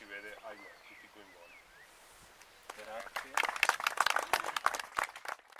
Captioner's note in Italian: Applauso